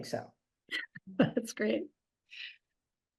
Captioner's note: chuckles